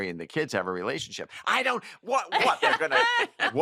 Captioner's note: laughter